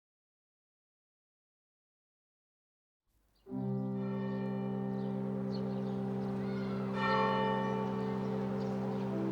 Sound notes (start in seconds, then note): 4.2 bell chiming